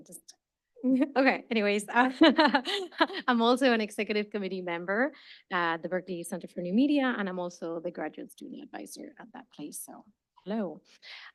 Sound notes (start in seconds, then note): 2.2 chuckles